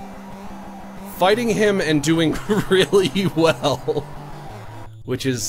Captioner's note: laughs